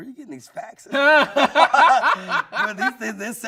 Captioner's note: everyone laughing